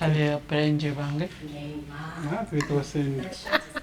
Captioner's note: ladies speaking in foreign language